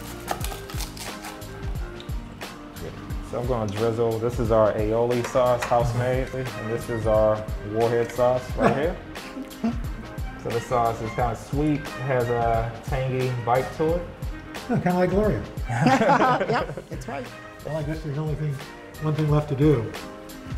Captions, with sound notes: I'm going to drizzle, this is our aioli sauce. House made. This is our warhead sauce right here. This sauce is kind of sweet. Has a tangy bite to it. - Kind of like Gloria. (laughter) - Yep! That's right. - One thing left to do.